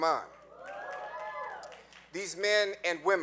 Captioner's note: audience cheering